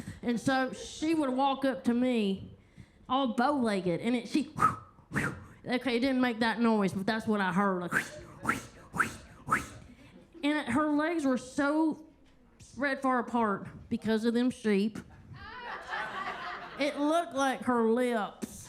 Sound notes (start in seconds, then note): 4.5 Kentucky Lightning whistles; 7.9 Kentucky Lightning whistles; 15.2 attendees laughing